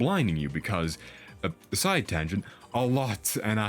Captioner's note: breath